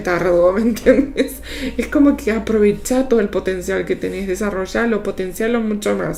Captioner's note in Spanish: risas